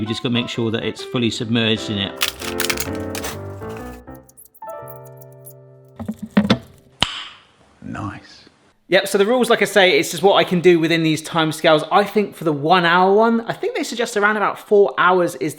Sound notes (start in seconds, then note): 2.6 light piano music; 6.9 fingers clicking